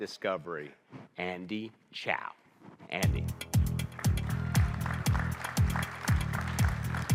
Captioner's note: audience applauding